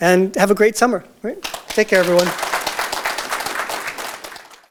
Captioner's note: audience Applause